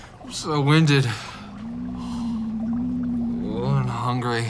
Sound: stomach growling

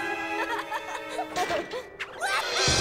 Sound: giggles

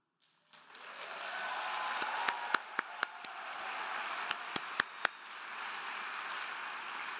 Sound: crowd clapping; crowd cheering

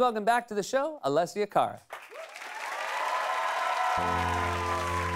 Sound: applauses

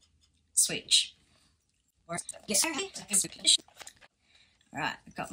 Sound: fast forwarded talking

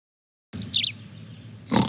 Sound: birds chirping; snores and yawns

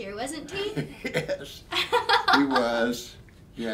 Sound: both laughing

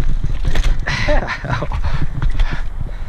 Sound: laughs

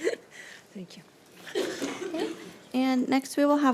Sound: laughs

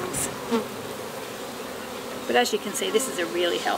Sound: bees buzzing

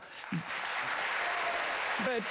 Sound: applause

